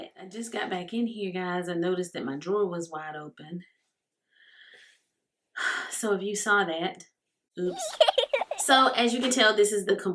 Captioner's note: baby giggle